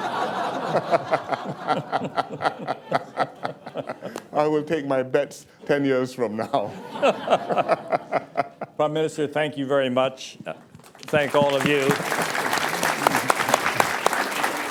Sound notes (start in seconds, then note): 6.4 laughter